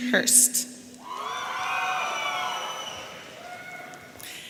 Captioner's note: audience cheering